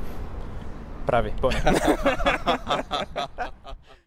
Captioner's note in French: rires